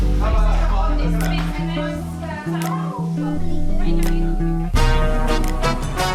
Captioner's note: chilled music; people talking